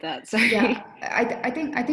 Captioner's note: laugh